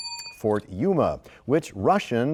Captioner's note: bell rings, time expires